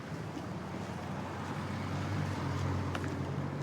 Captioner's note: vehicles driving